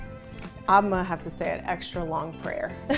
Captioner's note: chuckling